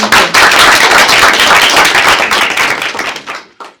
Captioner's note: applause